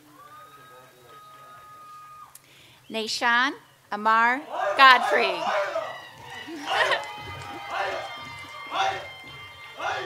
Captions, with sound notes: (audience applauds) Nahshon Amar Godfrey. (audience cheers and applauds)